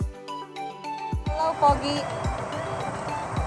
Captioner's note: speaking in Filipino